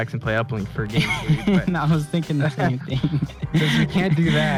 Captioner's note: laughs